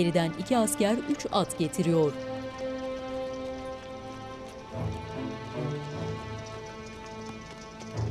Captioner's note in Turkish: At nalı sesleri